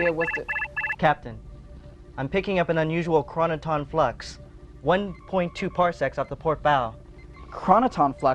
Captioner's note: alarm